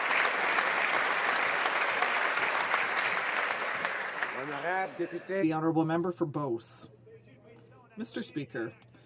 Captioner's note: some Applause